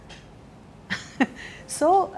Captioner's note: Chuckles